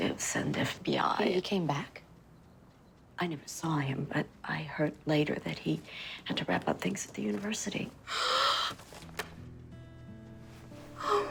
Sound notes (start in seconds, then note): 8.0 gasps